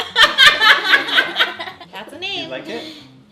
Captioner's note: laughing